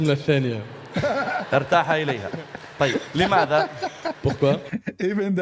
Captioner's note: Ketawa